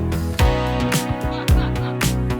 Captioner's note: laughter